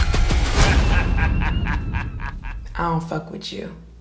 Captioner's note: man evil laughing